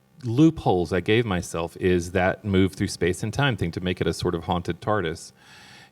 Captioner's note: none